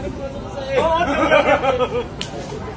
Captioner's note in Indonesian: laugh